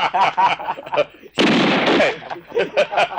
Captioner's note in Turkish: Silah sesi